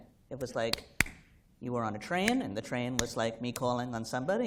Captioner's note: slap